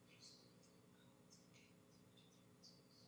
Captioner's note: clerk whispering